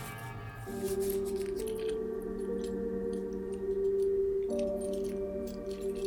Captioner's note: soft dramatic music; necklace jangling